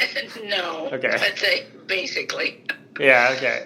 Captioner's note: chuckles